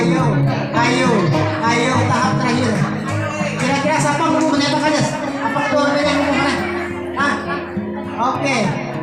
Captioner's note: clapping hand